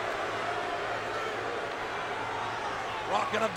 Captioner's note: crowd exclaiming